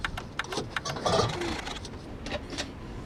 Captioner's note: engine sputtering